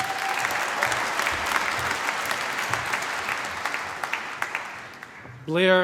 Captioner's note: cheering, applause